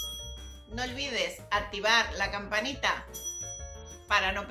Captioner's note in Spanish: sonido:riiinggg; sonido: ringg